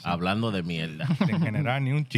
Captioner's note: speaking Spanish